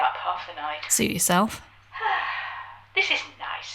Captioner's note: sighs